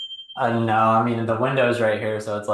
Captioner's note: bell dinging